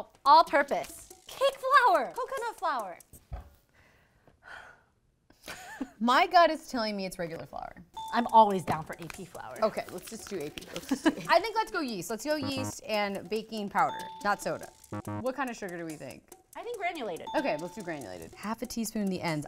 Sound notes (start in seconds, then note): 3.5 girls laugh; 7.8 ding; 12.4 buzzer sounds; 13.9 ding; 14.8 buzzer sounds; 17.3 ding